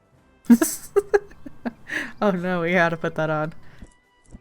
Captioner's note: laughs